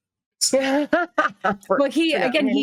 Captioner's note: cast members laughing